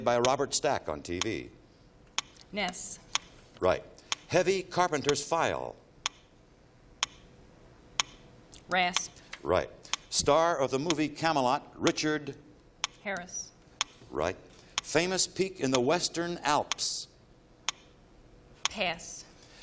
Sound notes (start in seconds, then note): 8.0 clock ticking